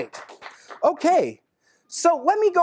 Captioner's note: clapping